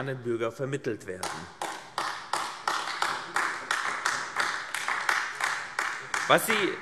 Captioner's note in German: Beifall AfD